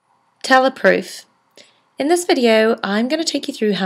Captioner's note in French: Voiceover